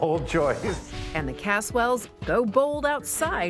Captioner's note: swooshing sound